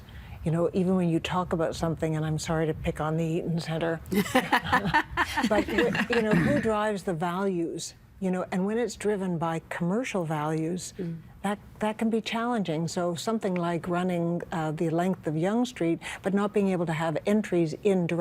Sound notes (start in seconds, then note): 4.1 laughing